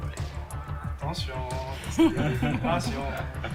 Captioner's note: laugh